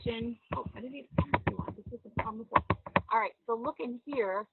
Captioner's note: speaking in low tones